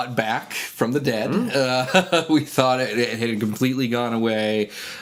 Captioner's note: chuckles